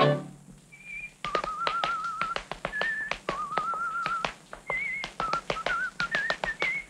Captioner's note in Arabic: موسيقى أوركسترالية مبهجة; صفير; نقرات الأحذية